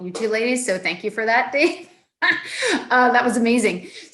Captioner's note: laughs